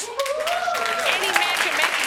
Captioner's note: audience cheering